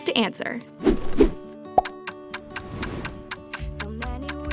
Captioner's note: clock ticking